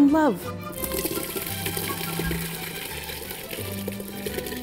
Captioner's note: liquid splashing